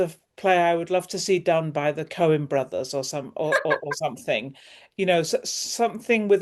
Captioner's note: laughter